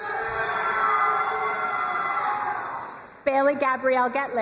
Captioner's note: crowd cheering and applauding